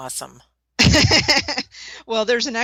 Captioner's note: laughter